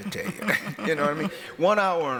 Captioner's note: laughs